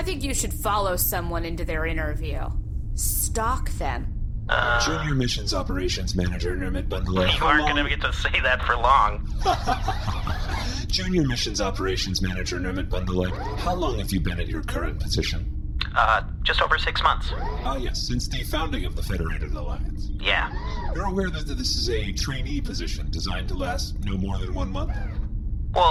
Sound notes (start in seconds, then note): 12.7 astoundingly insincere, fake-sounding laugh